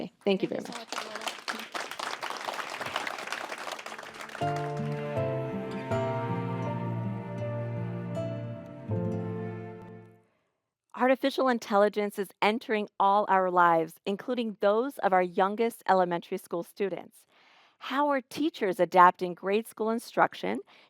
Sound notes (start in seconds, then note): 0.6 audience applauding; 4.3 calming music